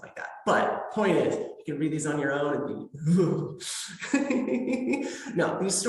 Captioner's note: creeped out noises